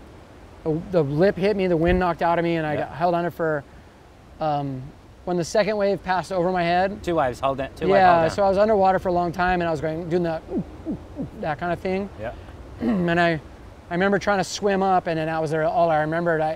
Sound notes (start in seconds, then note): 10.4 makes pulsing breathing noises